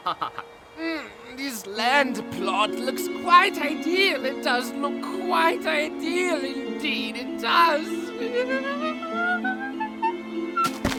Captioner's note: singing to the tune; laughs; giggles